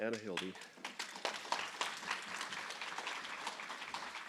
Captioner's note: applause